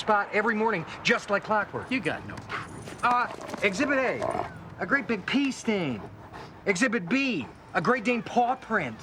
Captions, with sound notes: the same spot every morning just like clockwork. - You've got no proof. - Uh, Exhibit A. A great big pee stain. - (sniffs) - Exhibit B, a Great Dane paw print.